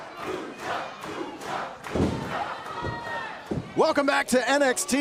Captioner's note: fans chanting